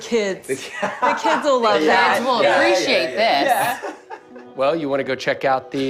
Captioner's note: laughs